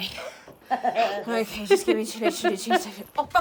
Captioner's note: the girls laugh